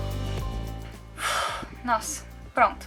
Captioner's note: deep sigh